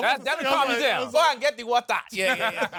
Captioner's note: nigerian accent; laughs